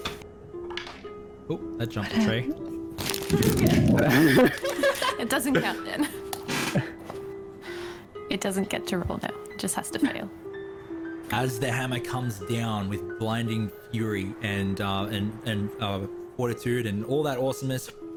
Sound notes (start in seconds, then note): 0.2 dice roll; 3.7 all nervous laughter